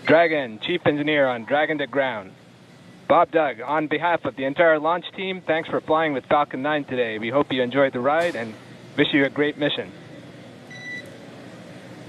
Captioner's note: buzzing